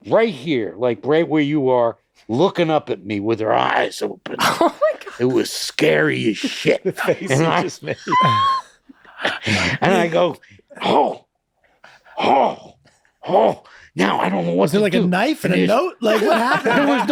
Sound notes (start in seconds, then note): 7.9 all laughing wheezily